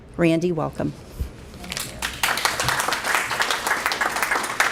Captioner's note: applause